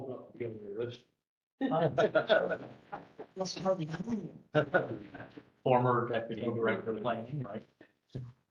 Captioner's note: laugh